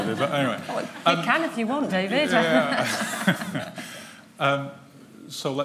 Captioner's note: laughter